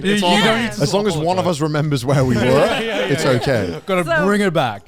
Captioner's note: men laugh